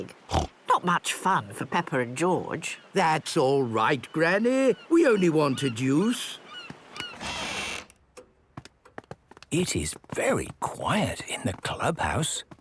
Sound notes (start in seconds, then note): 6.9 door squeaking; 7.1 quiet room